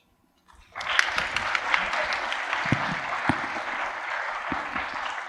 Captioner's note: applause